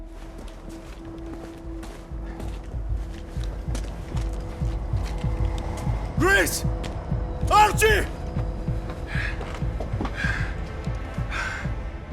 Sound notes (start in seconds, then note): 8.8 panting